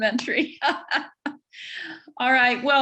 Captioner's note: laughs